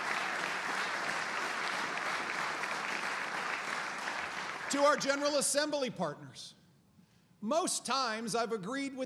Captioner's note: applause